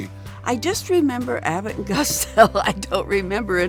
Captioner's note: laughing